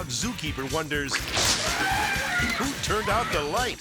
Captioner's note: sphincter sloshes; elephant trumpets